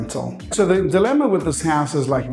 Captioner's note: graphics whooshing